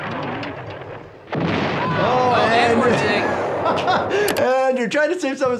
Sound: bomb exploding

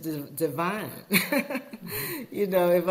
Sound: chuckling

